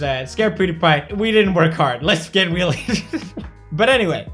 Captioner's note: laugh